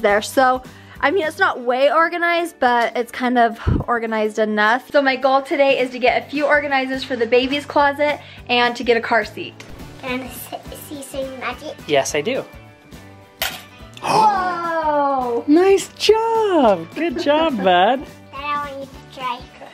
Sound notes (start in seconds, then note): 12.8 coin clanking; 12.8 gasps